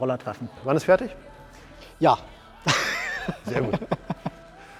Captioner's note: laughter